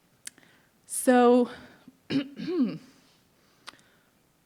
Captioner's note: clears throat